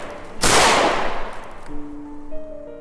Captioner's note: 2nd Gunshot